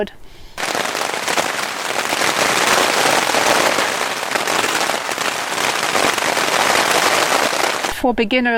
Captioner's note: sound of wind and strong rain